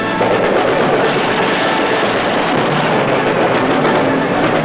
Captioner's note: majestic music; machine gun firing